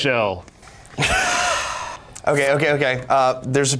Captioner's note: sighs